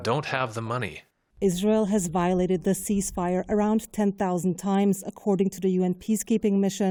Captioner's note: voice-over